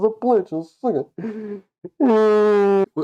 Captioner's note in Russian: Вздох